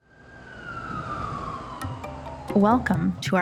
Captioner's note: traffic noise